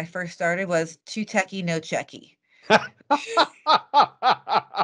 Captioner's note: laughing